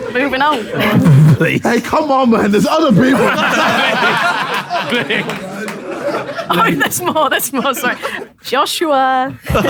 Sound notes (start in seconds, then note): 2.8 people in room laughing